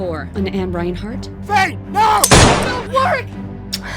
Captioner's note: gunfire booming